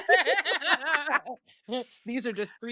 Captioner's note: laughing